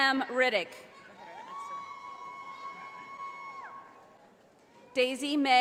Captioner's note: audience applauding